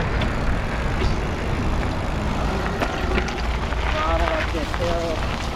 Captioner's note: wheel pattering